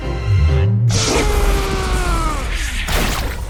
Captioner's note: paintbrush screams